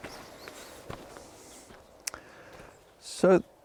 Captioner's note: foot steps